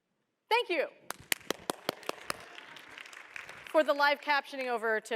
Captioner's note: applause